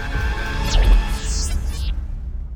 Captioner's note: electronic glitch